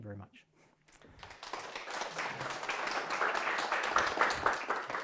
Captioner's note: audience clapping